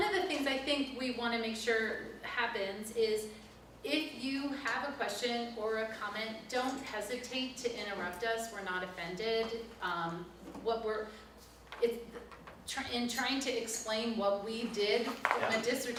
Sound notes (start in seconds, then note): none